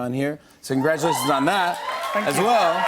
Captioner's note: cheers and applause